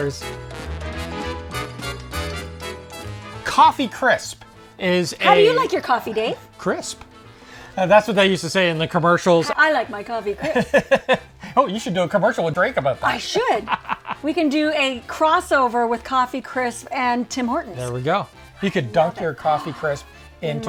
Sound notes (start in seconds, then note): 0.3 upbeat music; 10.4 laughing